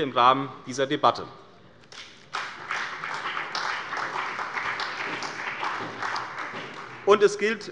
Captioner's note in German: Beifall bei der CDU und dem BÜNDNIS 90/DIE GRÜNEN